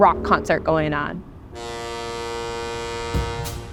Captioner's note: boat horn blares; drums kick in